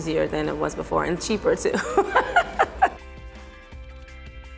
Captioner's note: laughter